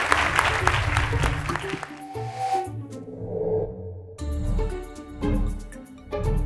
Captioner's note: applause